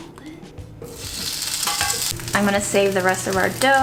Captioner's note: sizzling sound